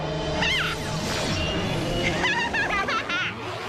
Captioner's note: laughs evilly